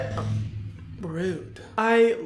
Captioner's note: motorcycle engine roaring